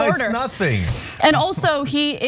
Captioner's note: laugh